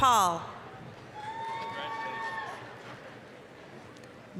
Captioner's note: applause, cheering